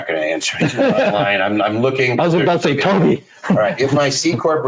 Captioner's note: laughing